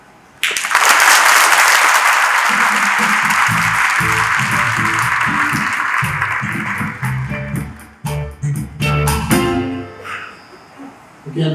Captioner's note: applause